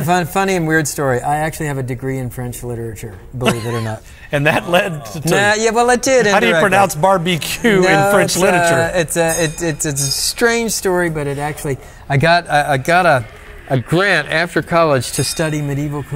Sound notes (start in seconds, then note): 3.4 laughs; 5.6 speaks French